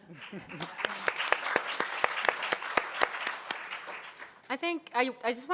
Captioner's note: audience applauding